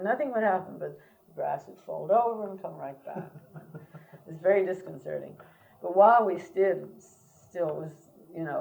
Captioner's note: laughs